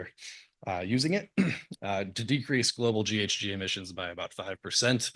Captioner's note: cough